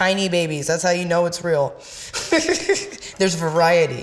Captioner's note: laughs